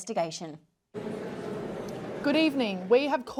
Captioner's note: general chatter